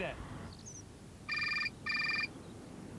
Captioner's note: mobile phone ringing